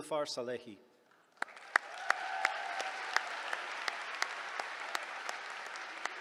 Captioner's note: applause